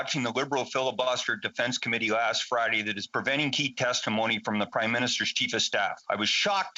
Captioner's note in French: voix de l'interprète